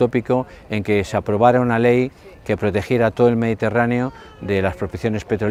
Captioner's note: Spanish